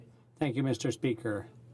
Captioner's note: speaking in french